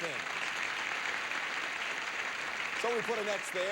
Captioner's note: audience applauding